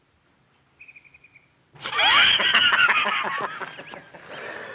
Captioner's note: Belcher laughing